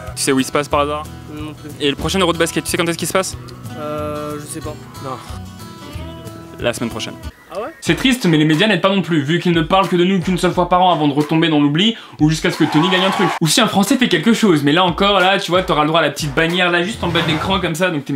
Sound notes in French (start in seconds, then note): 12.6 applaudissements